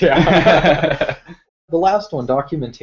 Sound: laugh

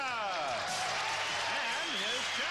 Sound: applause

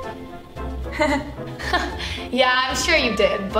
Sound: laughs nervously

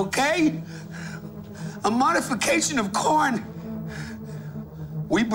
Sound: gasps

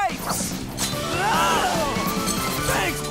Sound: screaming

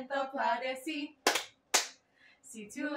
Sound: clap; sing in Spanish

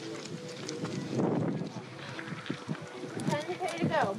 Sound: voices in the background; wind blowing

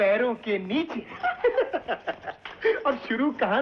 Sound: laughing

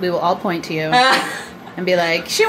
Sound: person laughing

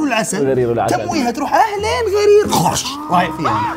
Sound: bites

